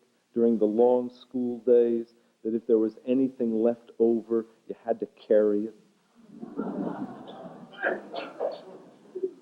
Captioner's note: laughter